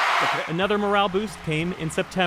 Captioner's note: cheering